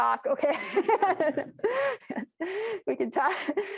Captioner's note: and the audience laughing